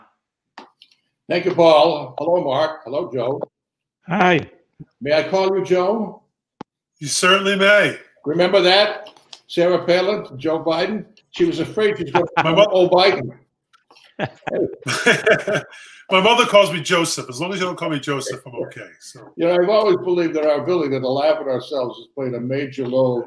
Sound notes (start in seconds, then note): 14.0 laughter